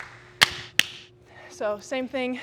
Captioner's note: Sheamus claps